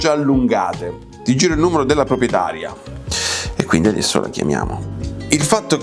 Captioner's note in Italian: sbuffare